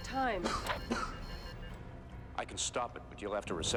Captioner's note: Peter coughs